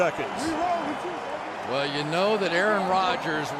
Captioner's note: onfield chatter